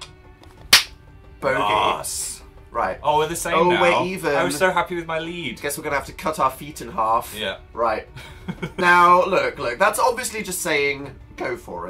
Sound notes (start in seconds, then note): 0.6 claps; 8.2 laughs